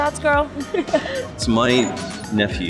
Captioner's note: laughs